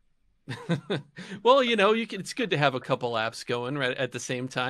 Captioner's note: laughs